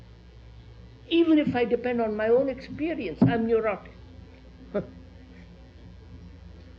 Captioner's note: laughs